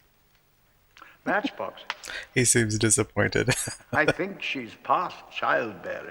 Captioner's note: chuckling